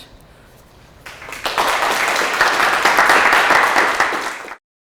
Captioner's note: applause